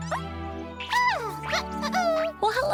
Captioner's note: caterpillar noises